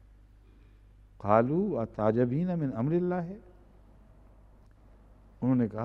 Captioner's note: Arabic